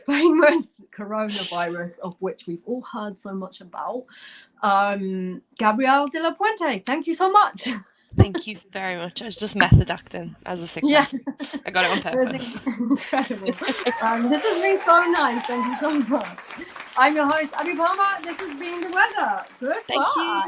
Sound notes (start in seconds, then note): 13.2 applause